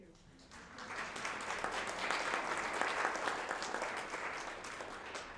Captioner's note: audience applauding